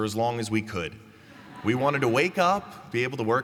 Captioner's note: laughter